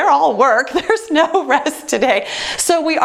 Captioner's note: laughs